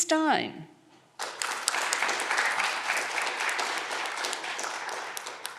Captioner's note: audience clapping